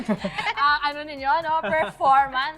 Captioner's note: laughter